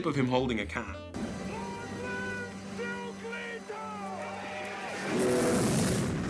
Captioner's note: shouting; blast